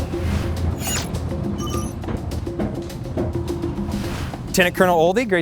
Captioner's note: energetic music; electronics bleeping